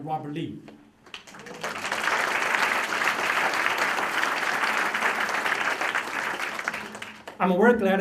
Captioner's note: applause